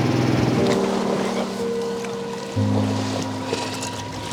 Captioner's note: waves crashing